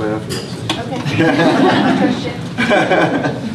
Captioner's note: laughter